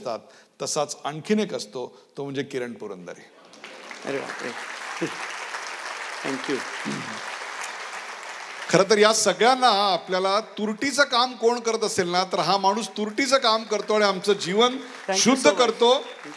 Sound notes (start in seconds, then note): 3.4 applause